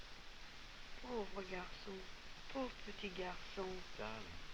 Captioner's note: girl speaking french